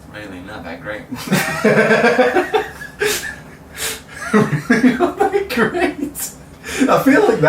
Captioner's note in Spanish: risas